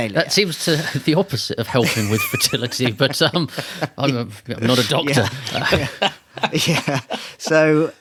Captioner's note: laughing